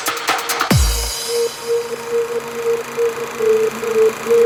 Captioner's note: film reel noise